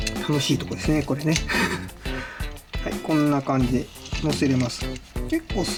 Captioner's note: laughs